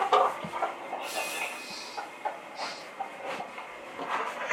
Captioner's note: The sound from the EMF device